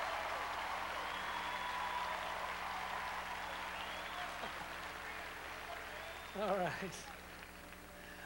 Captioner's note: crowd cheering